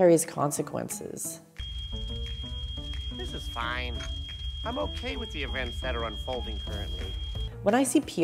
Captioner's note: alarm ringing